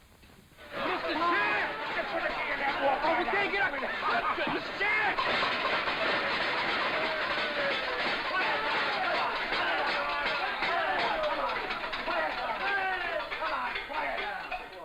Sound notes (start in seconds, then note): 1.1 yelling and chattering